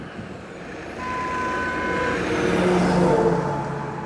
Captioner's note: the cops honks at me